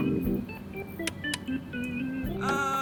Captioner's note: switches click